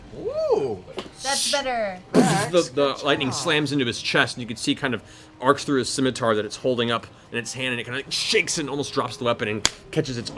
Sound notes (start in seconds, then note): 2.1 impact